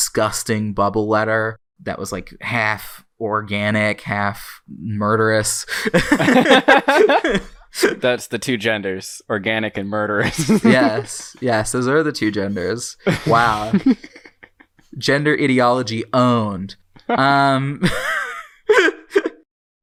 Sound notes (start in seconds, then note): 5.8 both laugh; 10.2 laughs; 13.0 laughs; 18.2 both laugh